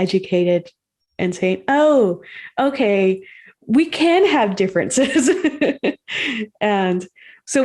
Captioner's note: laughs